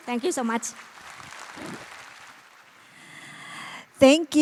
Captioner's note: applause